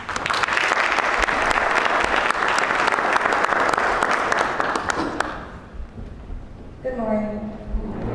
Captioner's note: applause